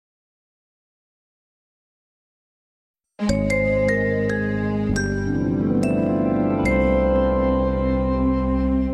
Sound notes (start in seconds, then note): 3.3 remastered chime plays